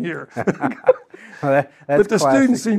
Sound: panel laughing

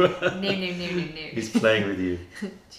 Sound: laughter

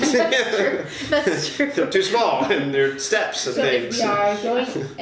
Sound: laughter

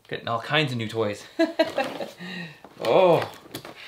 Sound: laughs

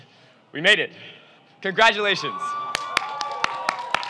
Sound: cheering

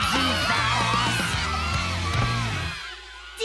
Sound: children cheering

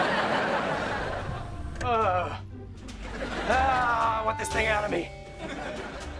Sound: groaning

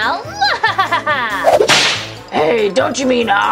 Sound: evil laughing

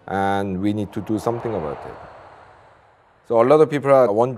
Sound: plane engine roaring

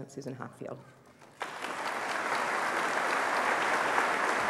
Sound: applause

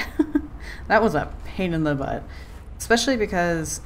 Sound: laughs

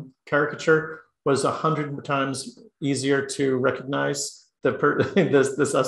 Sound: laugh

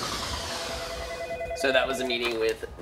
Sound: phone ringing

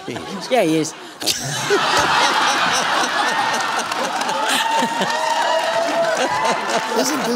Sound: laughter

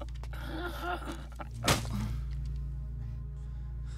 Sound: thudding

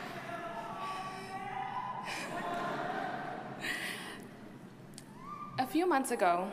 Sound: audience chuckles; audience member hollers

